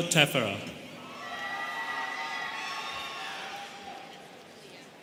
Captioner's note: students cheering